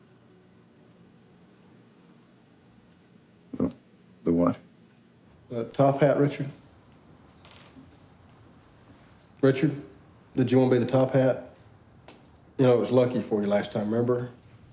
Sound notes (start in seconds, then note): 3.5 swallows